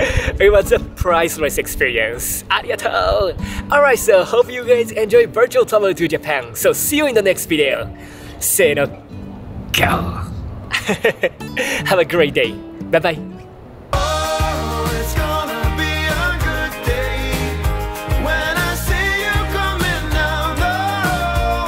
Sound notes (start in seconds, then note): 10.0 lion roar in Japanese